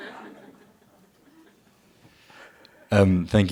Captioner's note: laughter